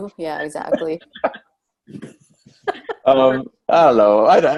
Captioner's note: all laugh